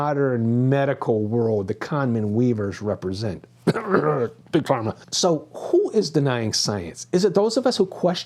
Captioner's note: cough